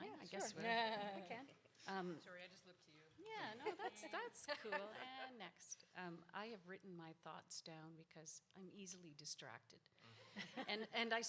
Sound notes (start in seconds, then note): 1.1 laughs; 3.6 laugh; 10.3 audience laughs